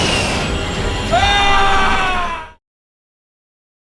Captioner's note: screaming